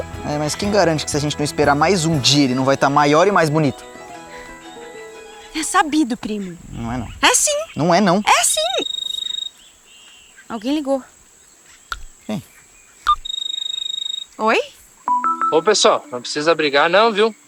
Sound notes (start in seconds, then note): 9.0 cell phone ringing; 13.2 mobile phone ringing